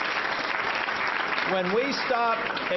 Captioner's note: applause